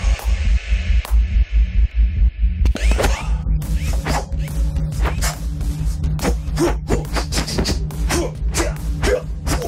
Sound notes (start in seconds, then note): 3.4 Papi grunts; 7.0 Papi grunts